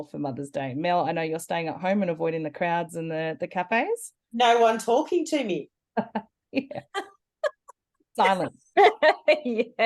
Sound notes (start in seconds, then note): 6.5 laughter